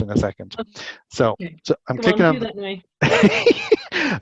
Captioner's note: laughing